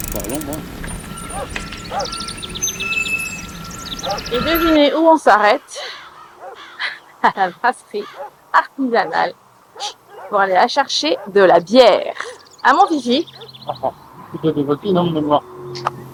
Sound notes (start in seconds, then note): 7.9 laughs; 13.4 laughs